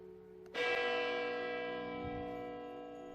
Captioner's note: church Bell